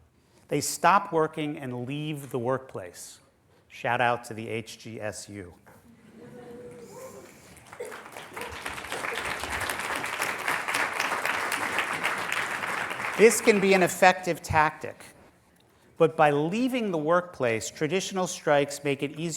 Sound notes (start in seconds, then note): 7.2 applause